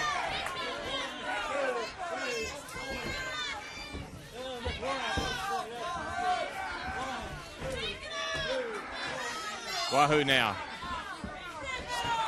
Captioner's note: crowd chatter